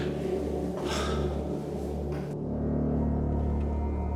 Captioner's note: man sighs